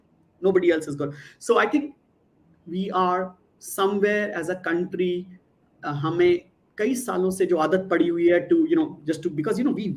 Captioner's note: non-english speech